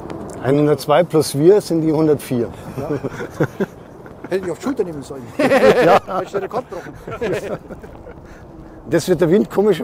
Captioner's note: laugh